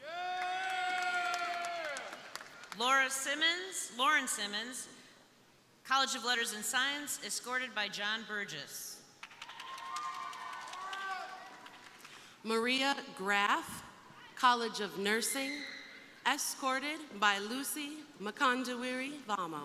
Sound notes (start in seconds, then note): 0.0 crowd cheering; 0.2 crowd applauding; 9.2 crowd applauding; 9.3 crowd cheering